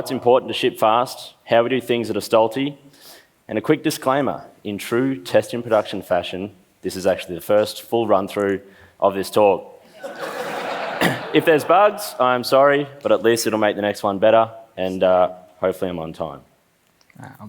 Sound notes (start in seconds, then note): 10.0 laughs; 11.0 clears throat